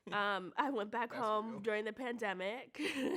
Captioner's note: laughs